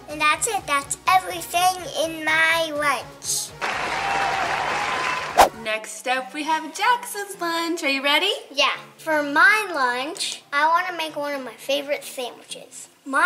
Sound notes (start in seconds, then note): 3.6 crowd applauding and cheering